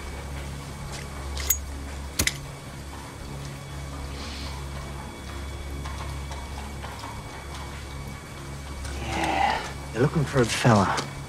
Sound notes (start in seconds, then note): 1.2 lighter clicks; 2.8 hoof beats in background